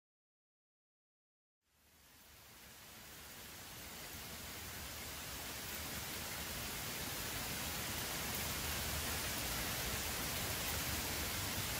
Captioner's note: rain Pouring